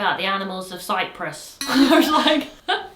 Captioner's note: both laughing